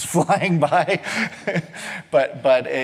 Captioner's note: laughs